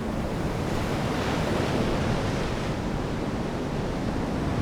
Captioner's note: waves crashing